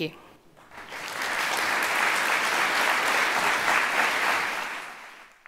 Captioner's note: applause